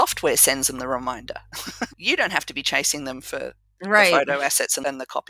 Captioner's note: laugh